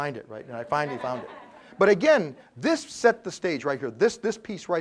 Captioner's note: laugh